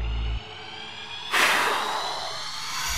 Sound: blowing

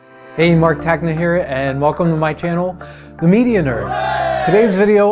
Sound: group: Hooray

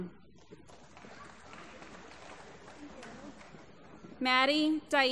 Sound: applause

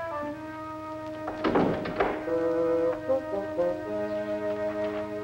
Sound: door closing

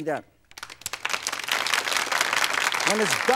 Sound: applauding

